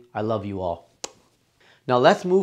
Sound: lips smacking

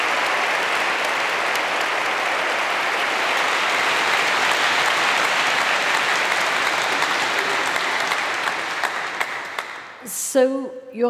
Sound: applause

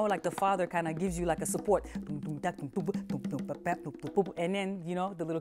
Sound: voicing drumming sounds

